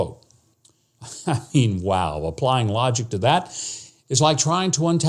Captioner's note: chuckling